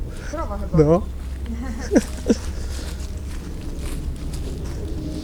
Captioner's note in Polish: śmiech